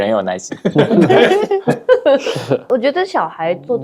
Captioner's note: laughter